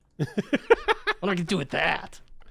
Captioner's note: laughs